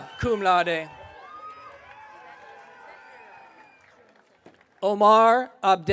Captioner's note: audience cheering